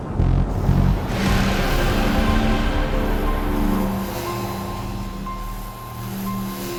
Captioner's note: dramatic music; portal whooshing